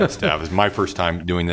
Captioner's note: laughter